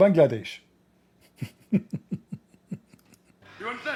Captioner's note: Ketawa